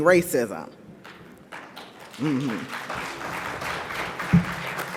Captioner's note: audience applauds